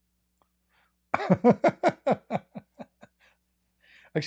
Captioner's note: Ketawa